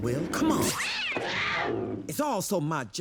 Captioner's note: meows, growls